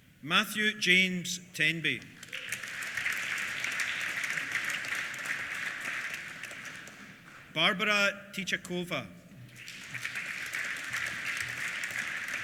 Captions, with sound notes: Matthew James Tenby. (APPLAUSE) Barbora Tichakova. (APPLAUSE)